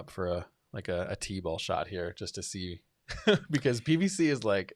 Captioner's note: laughs